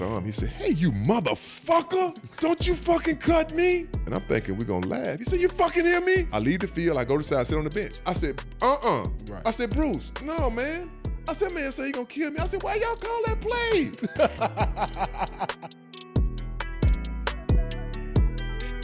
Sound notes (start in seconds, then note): 13.9 all laugh; 15.2 gentle music